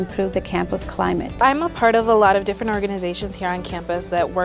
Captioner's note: voiceover